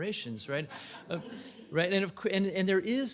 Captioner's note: laughter